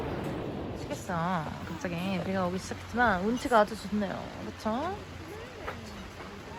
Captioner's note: rain that suddenly started